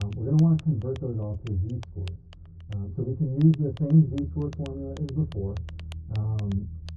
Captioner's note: Muffled Voice of Professor Lecturing